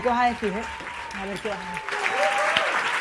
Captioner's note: applause